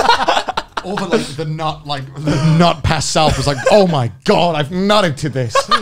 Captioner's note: murmurs